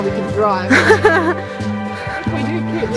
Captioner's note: laughing